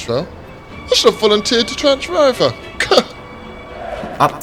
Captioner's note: scoffs; fans chanting